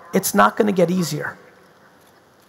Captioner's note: none